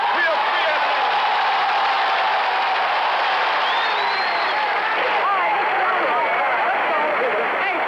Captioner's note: applause and cheers